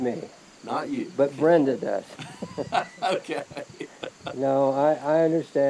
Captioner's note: both laughing